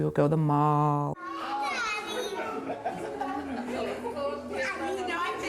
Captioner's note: idle chatter and laughter